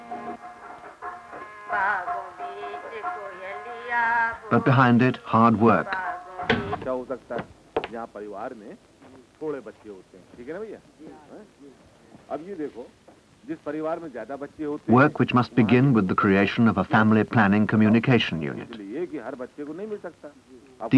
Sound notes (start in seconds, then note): 6.4 switch clicking; 9.0 footsteps